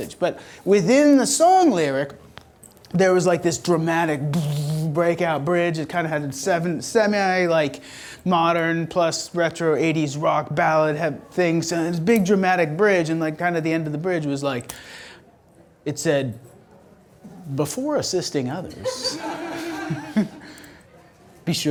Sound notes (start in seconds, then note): 4.3 booming; 18.8 audience laughter